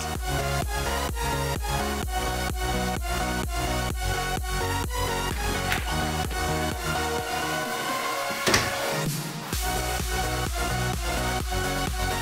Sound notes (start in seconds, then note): 0.0 techno music; 5.3 door opens; 8.5 door closes; 9.6 techno music